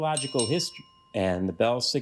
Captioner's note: bell rings